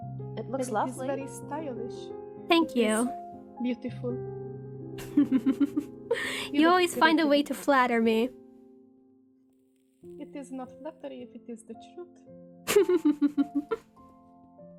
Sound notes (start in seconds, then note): 5.0 chuckles; 12.6 ROSE giggles